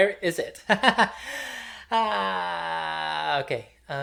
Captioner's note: laughs in adhd